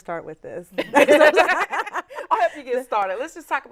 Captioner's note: laughs